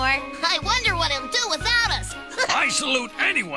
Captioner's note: chuckles